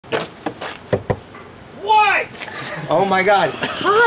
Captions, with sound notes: (crew member knocking) - What? Oh my God.